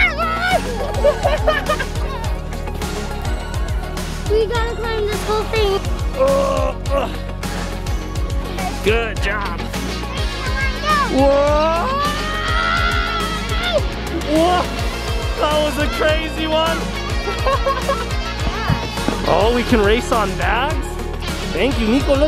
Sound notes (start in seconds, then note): 0.0 yelling and laughter; 2.3 upbeat music continues; 6.3 grunting; 11.8 screaming